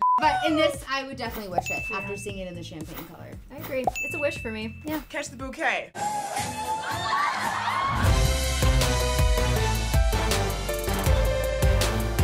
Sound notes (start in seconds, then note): 6.0 people cheering; 8.1 upbeat wedding theme music